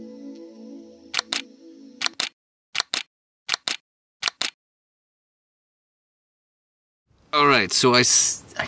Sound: camera clicking

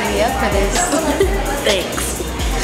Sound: laughs

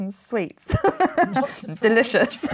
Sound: laughs

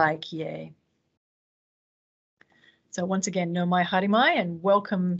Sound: speaks in te reo Māori

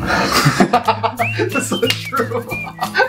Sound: laughing

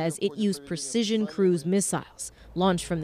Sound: speaking Foreign Language

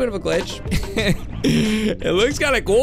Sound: chuckles

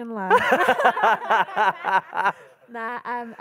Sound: moderator and attendees laughing

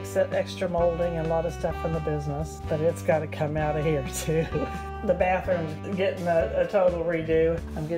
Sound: chuckling

